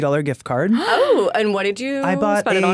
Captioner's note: gasps